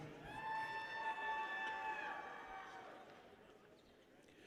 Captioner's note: people cheer